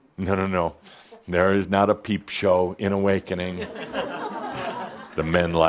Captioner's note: some chuckles